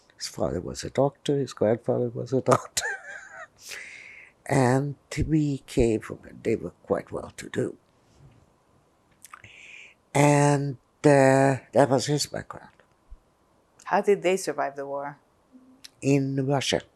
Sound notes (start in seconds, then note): 2.4 laughing